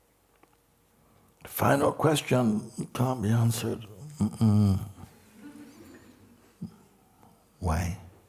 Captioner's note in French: Rires